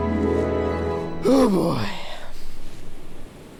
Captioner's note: sigh